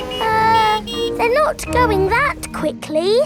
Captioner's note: horns honking